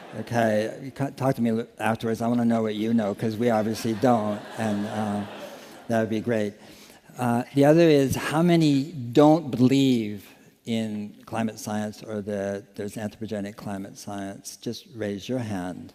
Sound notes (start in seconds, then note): 6.6 laughter